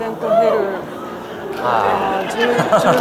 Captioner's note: laughter